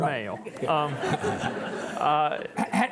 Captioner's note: audience chuckling